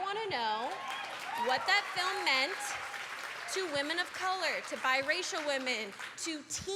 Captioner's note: applause